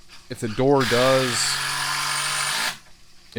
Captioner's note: power tool operating